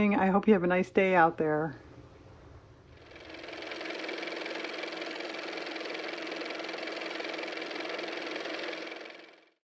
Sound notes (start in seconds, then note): 7.9 car motor